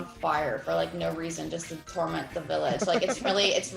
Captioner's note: laugh